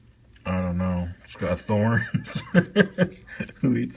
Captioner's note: laughing